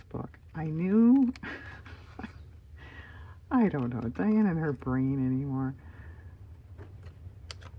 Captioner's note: laughs